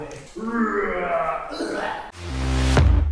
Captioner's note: wrestling noises